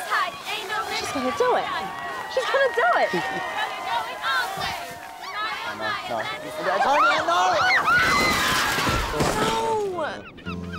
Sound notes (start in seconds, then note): 7.5 girl screaming; 7.9 crashing noise